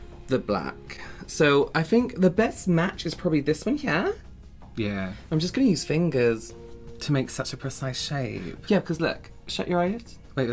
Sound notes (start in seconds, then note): none